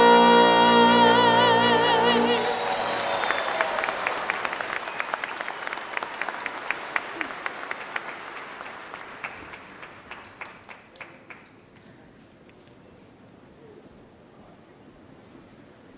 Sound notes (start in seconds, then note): 2.3 applause